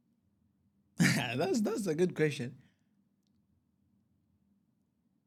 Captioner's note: clearing throat